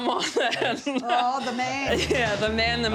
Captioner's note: chuckles